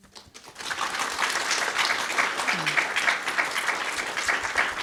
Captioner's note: audience applauding